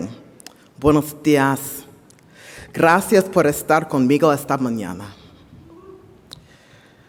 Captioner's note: speaking in foreign language